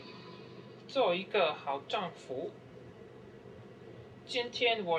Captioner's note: speaking Chinese